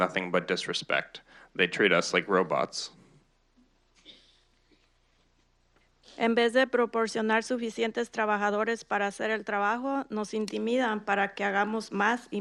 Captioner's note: speaking in Spanish